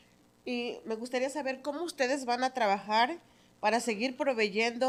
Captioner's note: speaking in Spanish